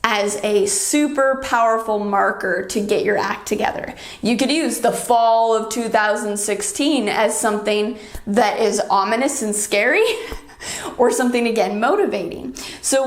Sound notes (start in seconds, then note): 10.1 chuckles